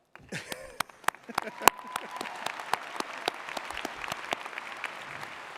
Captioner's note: audience applauding